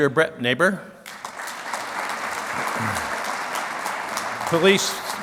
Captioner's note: clapping